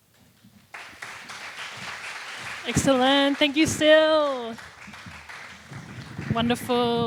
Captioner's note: applause